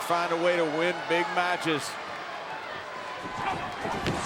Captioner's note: body thudding